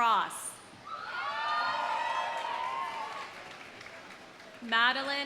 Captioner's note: audience cheering; audience applauding